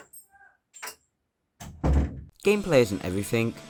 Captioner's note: door shuts